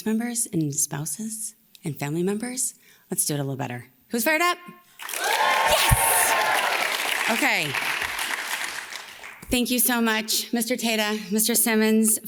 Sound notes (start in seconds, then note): 5.0 audience cheers loudly